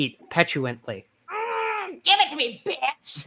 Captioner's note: groans